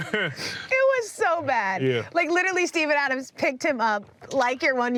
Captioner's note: laughing